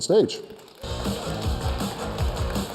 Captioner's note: cheers and applause